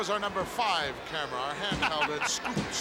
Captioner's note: chuckles